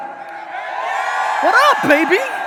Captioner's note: audience cheers